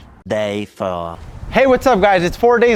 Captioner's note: male Voice